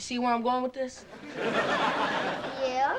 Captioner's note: audience laughing